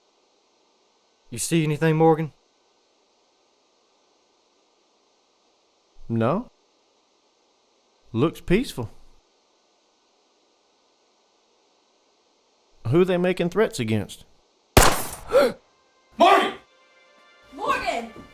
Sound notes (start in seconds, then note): 14.8 gun firing; 15.2 gasping